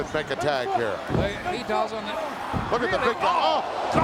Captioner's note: mumbling